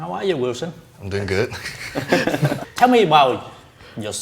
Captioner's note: both laughing